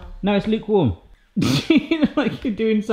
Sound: laughs

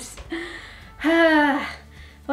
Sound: sighs

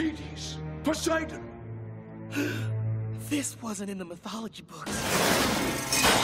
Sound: gasping

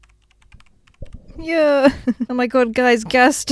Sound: laughs

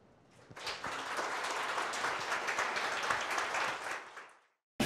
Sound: audience applauds

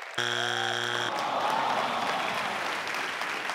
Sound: crowd jeering; buzzer beeping; crowd clapping

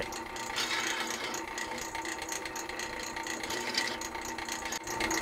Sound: grinding machine running

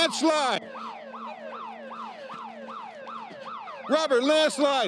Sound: alarms ringing

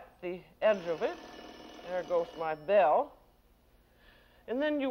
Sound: bell rings

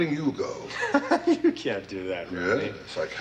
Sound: laughs

